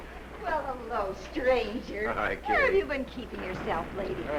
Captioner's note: none